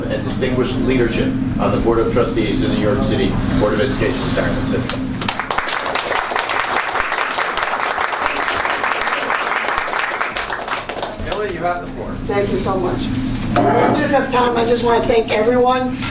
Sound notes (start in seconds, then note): 5.2 applause